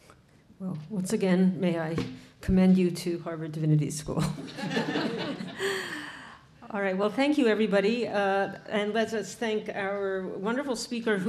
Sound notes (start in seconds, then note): 4.4 audience laughing